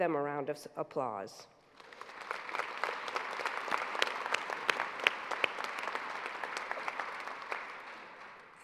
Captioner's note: applause